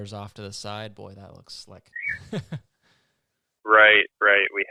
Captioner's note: laughs